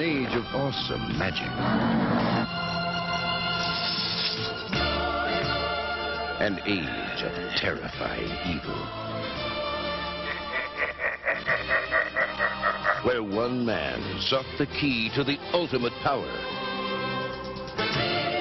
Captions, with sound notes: An age of awesome magic. An age of terrifying evil. *Laughing* Where one man sought the key to the ultimate power.